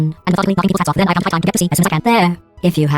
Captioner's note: ultra fast speaking